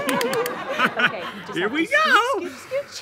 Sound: giggles

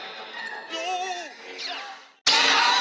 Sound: screaming

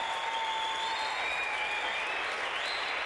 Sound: applause

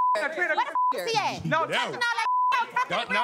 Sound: beep

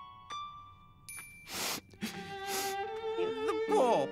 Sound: sniffles

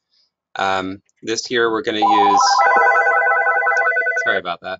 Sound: phone rings

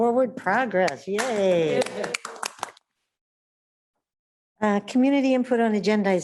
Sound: panelists applauding

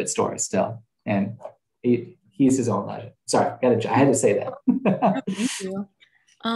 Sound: laughs

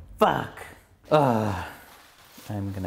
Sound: groans

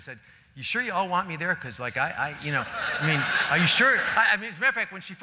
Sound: laughter

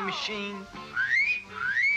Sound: whistle

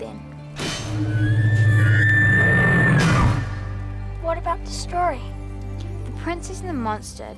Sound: machines whining

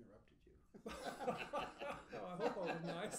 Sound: laughing

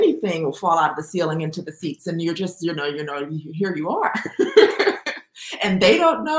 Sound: laughs

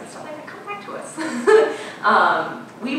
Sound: laughing

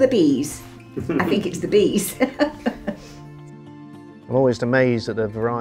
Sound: laughing

